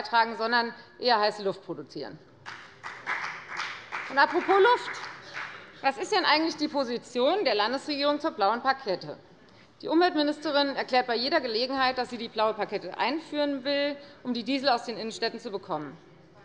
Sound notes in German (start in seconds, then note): 2.4 Beifall bei der FDP